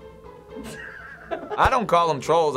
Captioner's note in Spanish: Finebros ríe a carcajadas